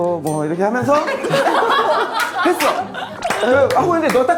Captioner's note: laughing